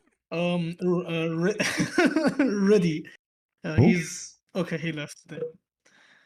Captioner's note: laughter